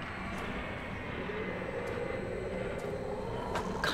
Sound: wind howling

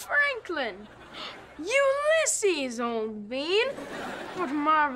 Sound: gasps

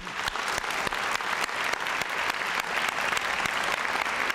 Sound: applause

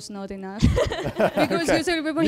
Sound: laughter

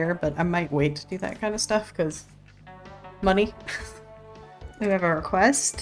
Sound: laughs

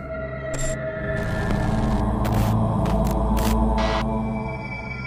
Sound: static crackling

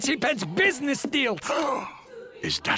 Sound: gasping

